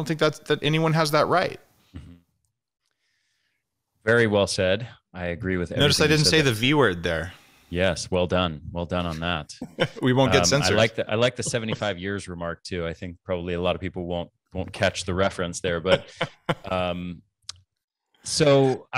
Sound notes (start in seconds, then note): 9.6 laughs